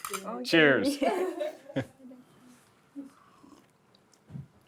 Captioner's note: all laughing